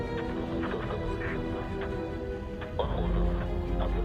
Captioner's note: man speaking in foreign language